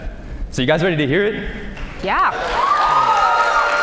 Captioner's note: cheers and applause